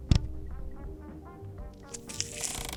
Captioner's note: distorted guitar; peeling & creaking